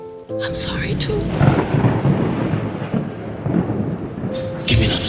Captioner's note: lightning cracks